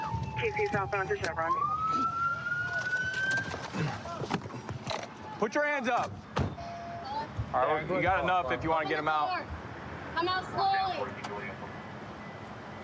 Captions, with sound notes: TC southbound to Chevron. [sirens] Put your hands up! You got enough if you want to get him out. Open the door! Come out slowly!